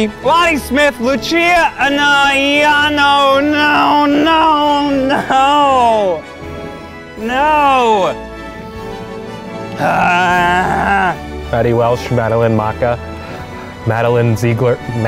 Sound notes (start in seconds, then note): 9.7 yelling